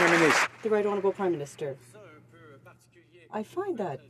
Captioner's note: some Applause